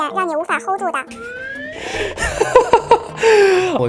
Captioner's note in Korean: 갑자기 터진 웃음